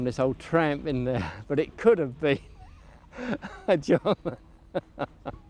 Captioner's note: chuckling